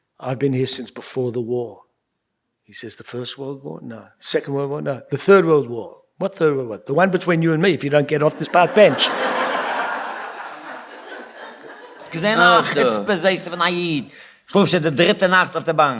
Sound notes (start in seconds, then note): 8.1 laughter; 12.1 speaking yiddish